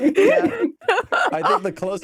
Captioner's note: laughter